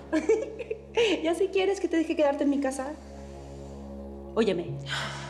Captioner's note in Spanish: risas